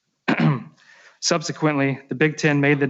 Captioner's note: clears throat